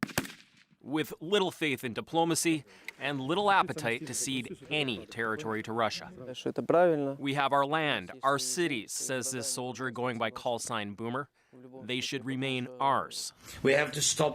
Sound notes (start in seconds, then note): 8.2 speaking alternate language